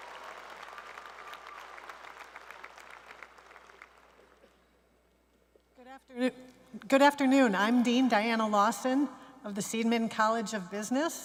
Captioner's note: cheers and applause